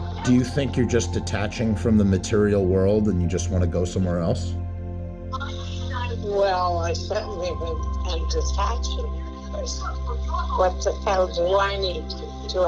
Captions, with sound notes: Do you think you're just detaching from the material world- -and you just want to go somewhere else? Well, I certainly would like detaching... [TV sitcom banter] Of course, what the hell do I need?